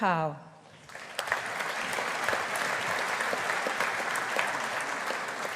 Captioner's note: audience applauding